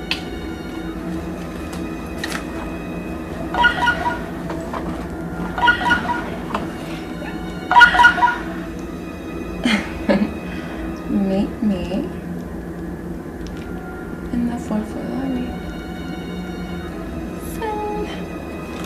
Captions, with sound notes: (phone chiming) Meet me in the fourth floor lobby. Send.